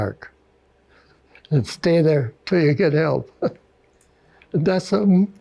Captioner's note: chuckles